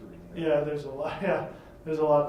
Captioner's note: chuckling